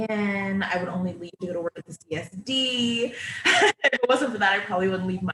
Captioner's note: laughing